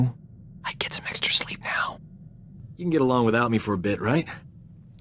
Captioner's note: whispers